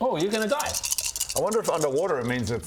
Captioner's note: deliberately aggressive dice shaking